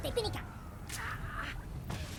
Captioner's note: speaking foreign language